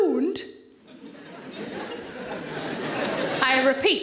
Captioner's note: audience laughing